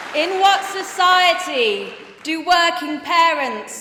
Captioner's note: applause